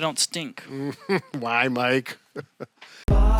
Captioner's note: chuckling